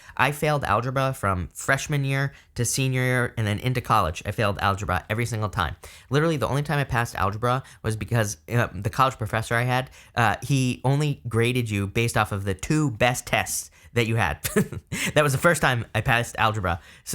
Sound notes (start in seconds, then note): 14.5 laughs